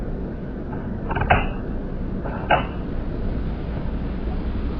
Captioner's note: slowed down sound of lamp cord being pulled